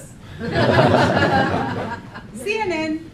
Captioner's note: laughing